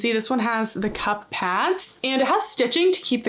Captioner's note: text whooshing